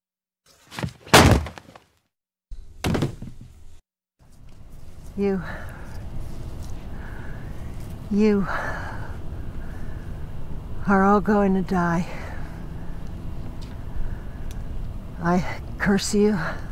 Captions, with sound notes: (shovel thudding) (body thudding) You, you are all going to die. I curse you.